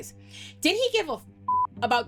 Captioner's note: beep